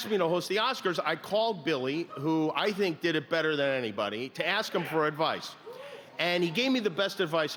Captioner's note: laughter